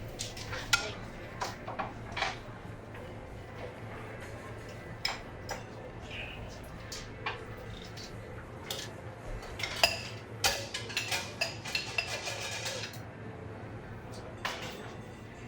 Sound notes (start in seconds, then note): 9.3 utensils clanking